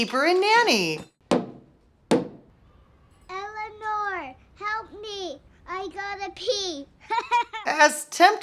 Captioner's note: knocking on wall